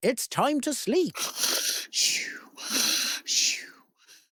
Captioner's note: snores